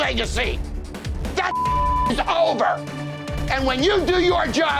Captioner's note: beep